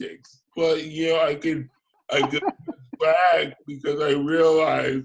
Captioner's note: laughs